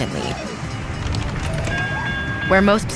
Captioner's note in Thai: เสียงหวูดรถไฟ